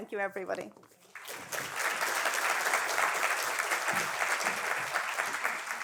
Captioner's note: audience applauding